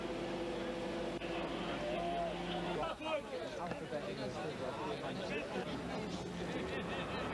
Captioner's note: chatter